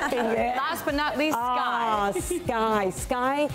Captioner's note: laughs